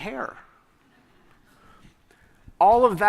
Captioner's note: laughter